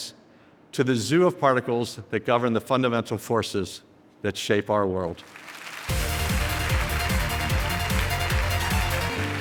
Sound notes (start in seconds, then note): 5.2 audience cheering and applauding; 5.9 upbeat music